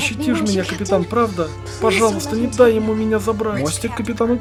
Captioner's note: intercom chimes